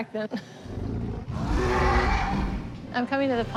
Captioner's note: chuckles; dinosaur roar